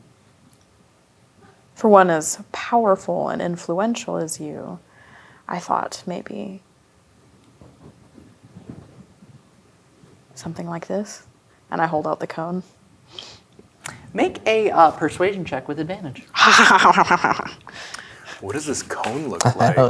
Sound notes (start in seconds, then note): 16.3 laughs evilly